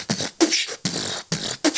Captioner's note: beat box